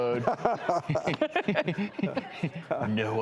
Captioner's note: everyone laughs